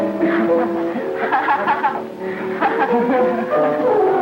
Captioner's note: woman laughing